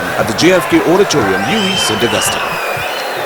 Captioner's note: wild applause and cheering for 22 seconds